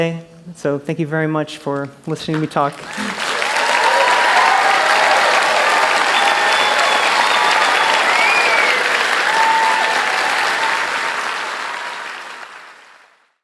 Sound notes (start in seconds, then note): 2.2 applause; 2.8 cheers